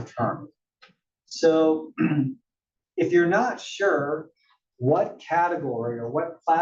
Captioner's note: cough